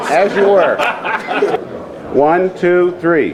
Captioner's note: photographer laughing